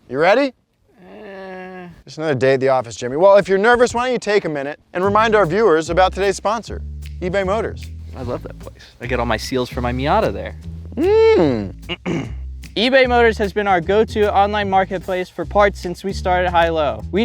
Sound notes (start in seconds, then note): 0.9 groans; 10.9 hums